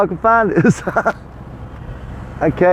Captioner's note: laughs